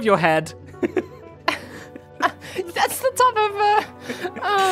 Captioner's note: laughs